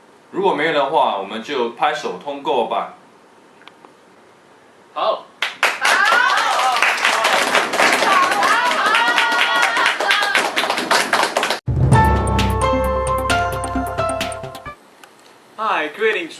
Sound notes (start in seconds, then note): 5.4 claps